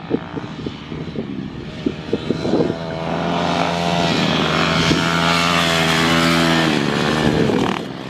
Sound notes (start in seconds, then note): 4.0 engines humming